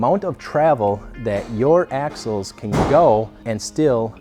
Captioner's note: tools banging